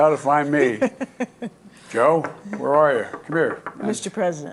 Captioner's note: laughter